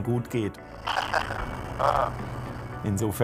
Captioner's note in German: Lachen